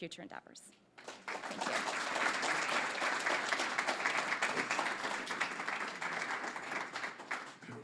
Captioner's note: applause